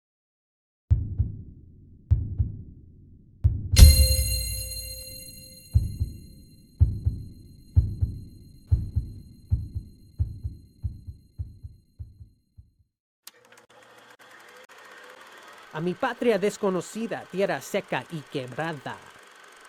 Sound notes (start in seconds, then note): 13.7 projector running